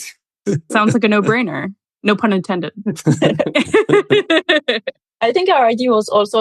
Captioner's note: all laugh